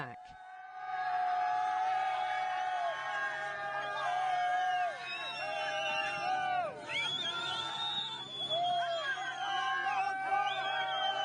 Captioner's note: refugees cheer, whistle and clap